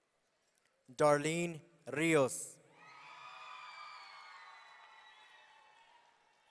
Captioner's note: audience cheering